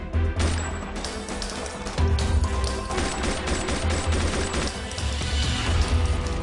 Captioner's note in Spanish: Disparos